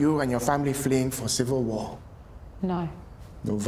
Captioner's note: none